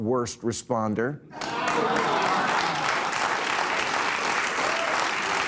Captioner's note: audience applauding